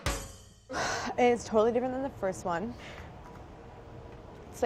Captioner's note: sigh